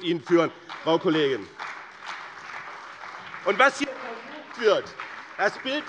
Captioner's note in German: Beifall bei dem BÜNDNIS 90/DIE GRÜNEN und der CDU